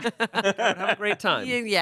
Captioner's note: everyone laughs